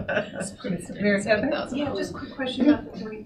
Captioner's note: laughing